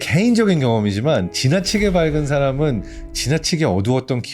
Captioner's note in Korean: 의미심장한 효과음